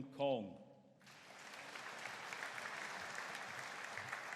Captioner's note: audience applauding